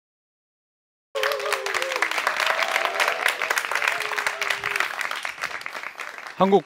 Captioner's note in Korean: 박수와 환호